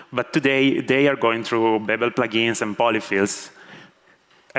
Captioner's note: none